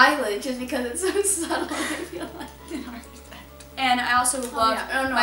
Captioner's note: laughs